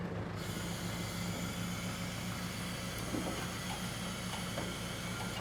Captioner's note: vehicle arm moving down